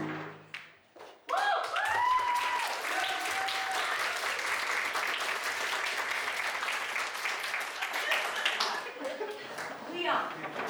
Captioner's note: applause